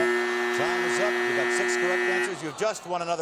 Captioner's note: buzz